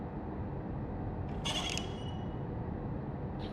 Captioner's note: door opens